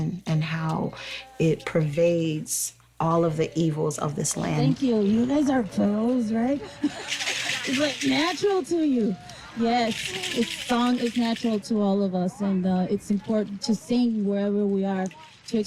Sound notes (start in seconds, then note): 5.8 laughs; 6.6 maraca rattles